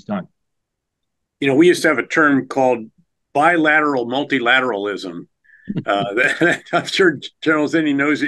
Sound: laughs

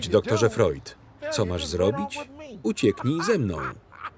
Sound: laughs

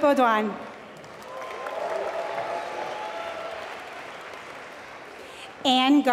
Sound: applause

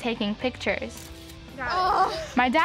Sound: camera snapping

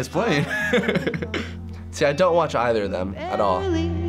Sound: chuckles

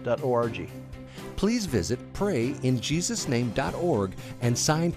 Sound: voiceover

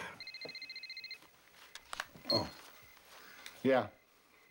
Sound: phone ringgin

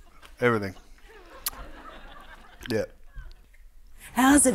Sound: audience laughing

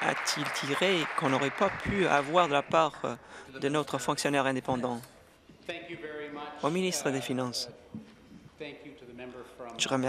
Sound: applause

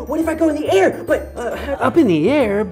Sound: stutters

